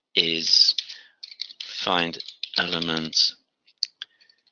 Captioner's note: typing